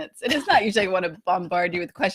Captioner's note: laughs